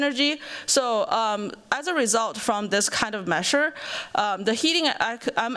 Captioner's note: none